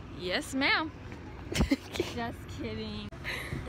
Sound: laughs

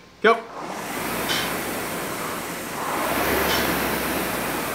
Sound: machine whirring

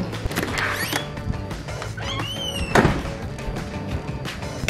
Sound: door squeaking

